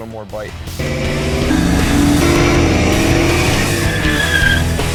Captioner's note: engines revving; tires squeal; intense energetic rock music